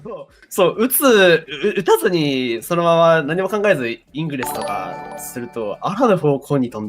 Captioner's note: obs sound